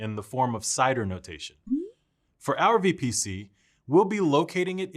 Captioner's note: notification dings